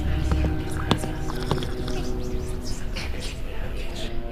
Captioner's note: Sgt foot steps; whispers and soup slurping noises